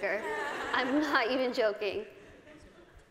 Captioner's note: laughter